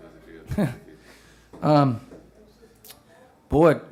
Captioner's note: laughs